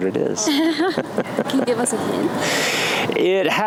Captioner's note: laughs